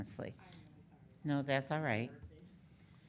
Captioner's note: speaking faintly